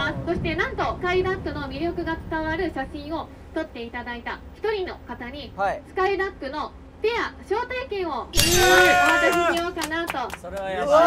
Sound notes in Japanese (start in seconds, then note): 8.9 拍手